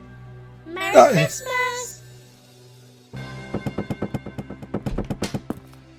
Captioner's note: exclamation of surprise